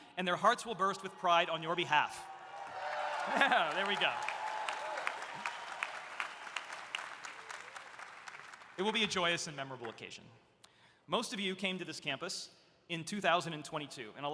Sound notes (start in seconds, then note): 2.1 audience cheering; 3.0 audience applauding